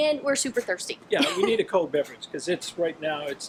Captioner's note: laughing